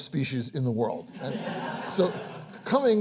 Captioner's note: audience applauds